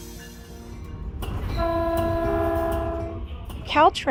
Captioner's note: train chugging